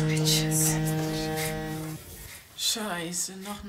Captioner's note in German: Klingelton